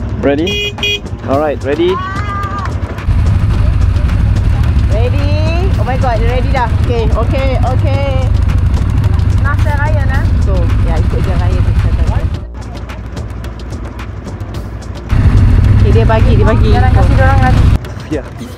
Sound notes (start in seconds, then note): 11.1 speaking German